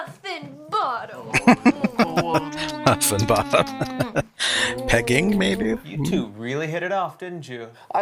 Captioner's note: laughing